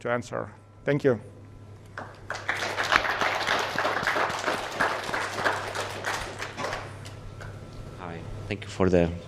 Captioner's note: applause